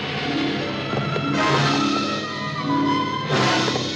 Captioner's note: rocks thudding